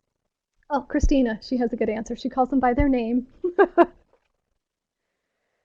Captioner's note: laughs